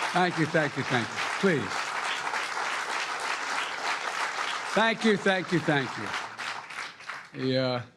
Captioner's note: cheering; applause